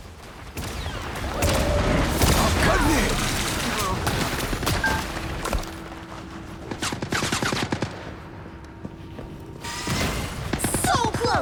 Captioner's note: gunshots